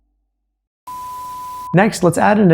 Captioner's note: beeping